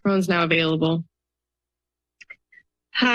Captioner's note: silence